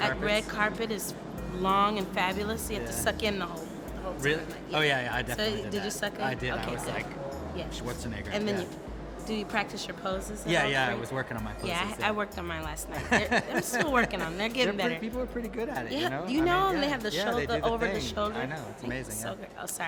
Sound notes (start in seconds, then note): 12.9 laughter